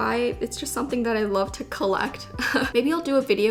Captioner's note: giggles